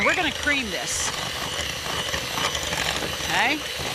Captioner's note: mixer buzzing